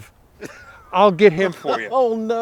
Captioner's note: chuckling